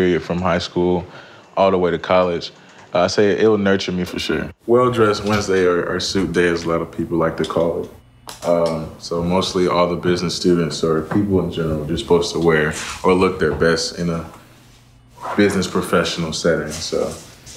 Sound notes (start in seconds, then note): none